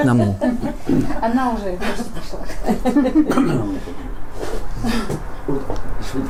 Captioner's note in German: Lachen